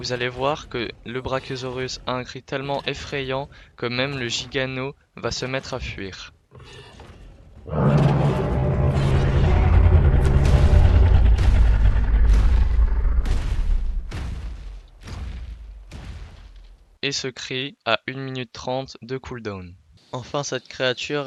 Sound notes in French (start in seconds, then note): 7.6 Rugissement